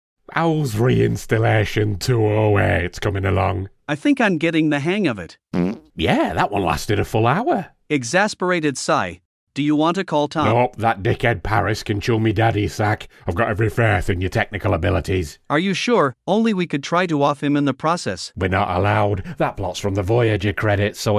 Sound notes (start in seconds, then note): 5.5 fart